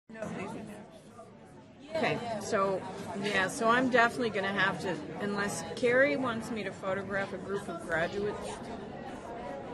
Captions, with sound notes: (lecture hall chattering) - [Voiceover] Okay, so I'm definitely gonna have to, unless Kerry wants me to photograph a group of graduates.